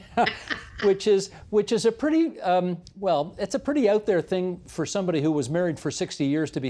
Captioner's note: laughter